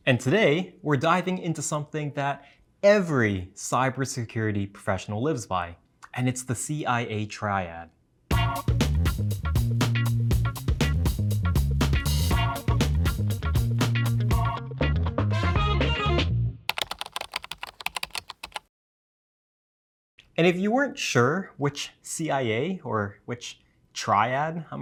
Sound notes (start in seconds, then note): 8.3 intro music; 16.7 keyboard typing